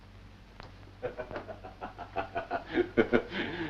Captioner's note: Marwitz laughs